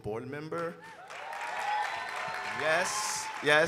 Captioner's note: audience cheering and applauding